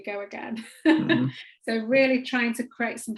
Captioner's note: laughs